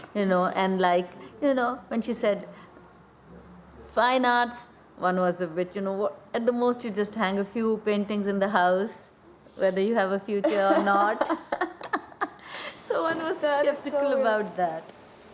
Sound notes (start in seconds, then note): 10.4 laughing